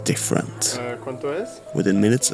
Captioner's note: in Spanish